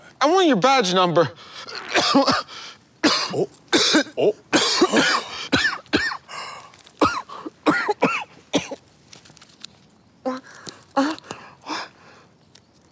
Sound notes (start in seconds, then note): 4.5 civilian coughing; 6.3 cop gasping